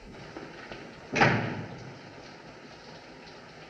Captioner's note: door Closes